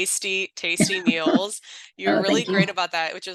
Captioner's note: laughs